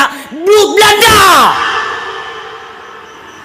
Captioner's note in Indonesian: berteriak